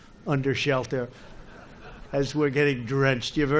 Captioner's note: laughter